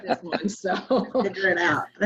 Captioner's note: laughter